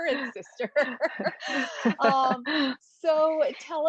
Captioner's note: both laugh